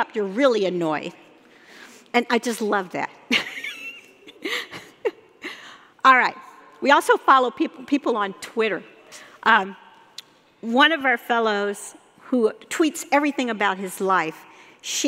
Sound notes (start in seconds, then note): 3.7 laughing